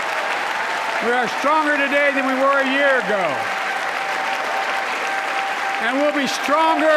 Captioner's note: applause